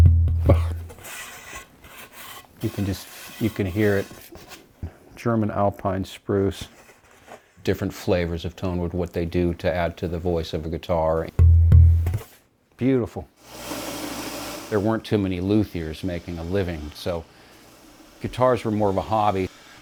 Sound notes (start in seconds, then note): 11.3 wood reverberates